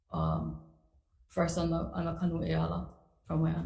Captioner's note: speaks foreign language